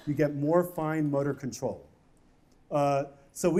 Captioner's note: none